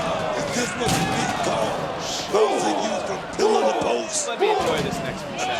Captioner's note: crowd roars; Booker is drowned out by box clattering